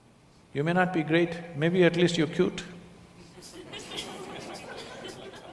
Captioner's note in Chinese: 笑聲